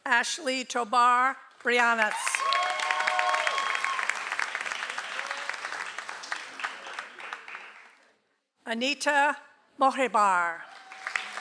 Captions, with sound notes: - Ashley Tobar Brianis. (audience applauds) - Anita Mojebar.